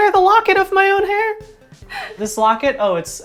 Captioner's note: laughs